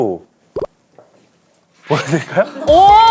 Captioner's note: hesitant